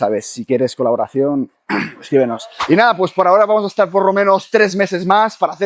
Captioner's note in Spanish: carraspeo